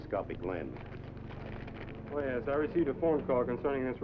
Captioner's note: paper unfolding